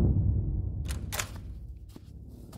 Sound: door opens

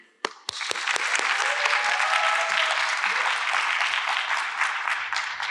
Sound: audience applauds

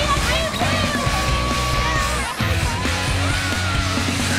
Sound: rock music; girls shouting

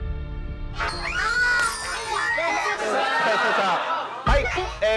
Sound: glass shattering

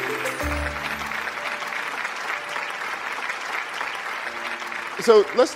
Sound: audience clapping

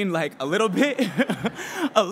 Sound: laughs

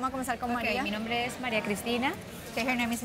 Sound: speaking spanish

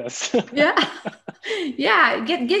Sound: both laugh

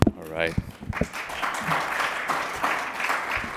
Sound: applause

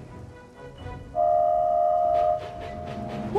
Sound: oliver whistles

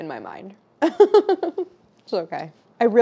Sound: laughing

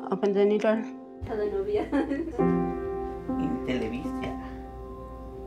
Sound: laughter and conversation

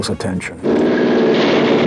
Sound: car engine revving

